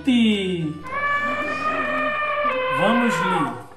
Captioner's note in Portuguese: Som de elefante